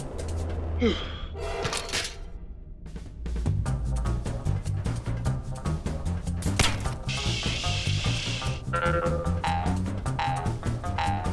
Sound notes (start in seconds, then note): 0.8 exhaling; 2.5 adventurous music; 8.8 boing